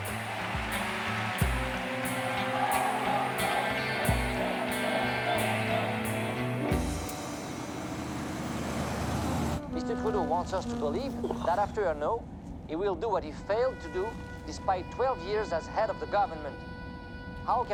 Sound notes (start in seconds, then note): 0.8 people clapping; 4.6 people chanting